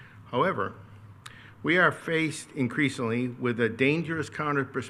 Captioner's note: none